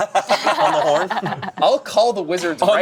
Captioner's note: group laughing